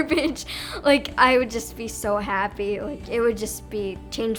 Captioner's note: laughter